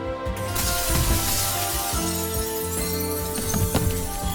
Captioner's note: glass shattering